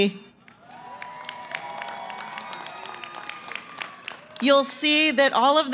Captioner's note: cheering & applause